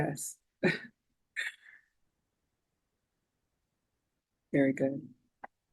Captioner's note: chuckling